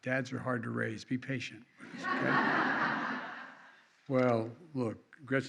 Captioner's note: laughter